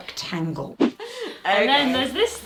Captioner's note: screen whooshing